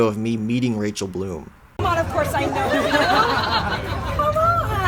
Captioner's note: laughter